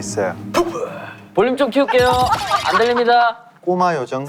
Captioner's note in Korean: 큰 소리로 웃으며